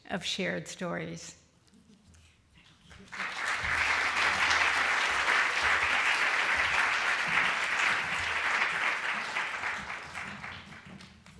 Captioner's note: applause